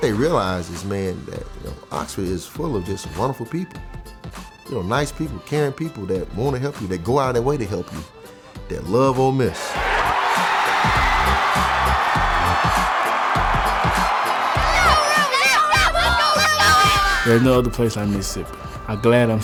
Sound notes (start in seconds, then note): 9.4 cheering